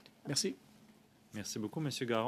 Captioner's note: speaking French